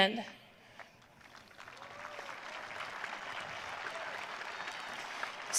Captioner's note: audience applauding